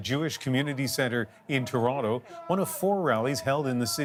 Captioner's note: chants